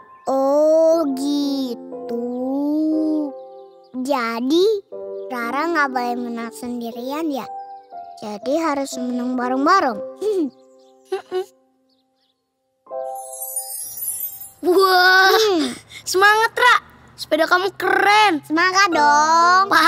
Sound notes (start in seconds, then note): 11.1 laughing